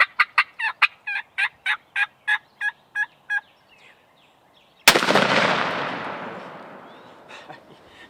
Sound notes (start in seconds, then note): 4.8 gun shot